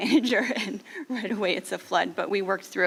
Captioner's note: laughing